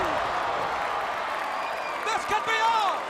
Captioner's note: crowd cheering